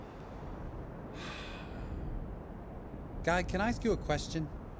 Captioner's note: guy sighs